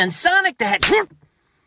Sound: slap

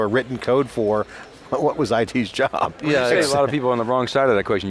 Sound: laughs

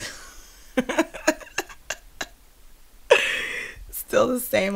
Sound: scoffs

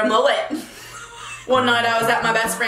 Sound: laughing

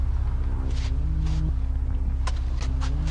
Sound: foot steps

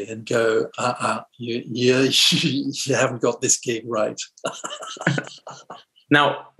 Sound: laughs

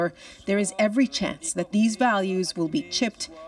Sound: speaking French

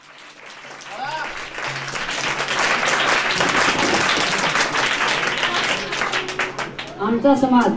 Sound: applause

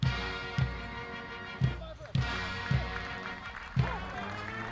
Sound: audience applauding

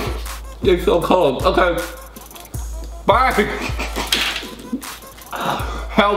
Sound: laughs

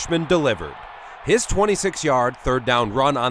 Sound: crowd

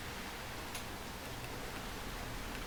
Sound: none

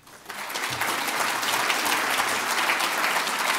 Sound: applause

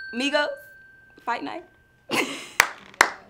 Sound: bell dings; claps

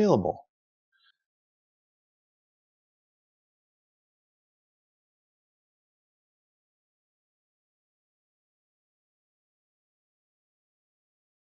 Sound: silence

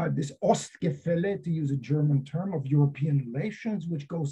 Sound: german

